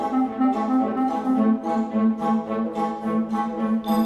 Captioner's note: Krel: high larynx, nasal, touch of growl